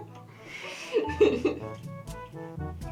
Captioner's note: laughter